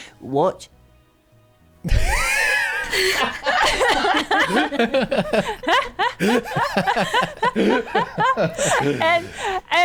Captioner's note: laughing